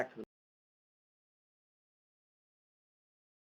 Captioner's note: audio cuts out